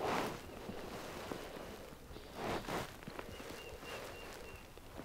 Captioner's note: turkey calling